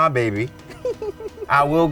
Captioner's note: chuckling